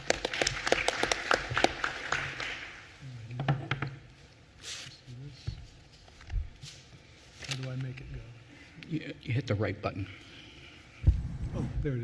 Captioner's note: applause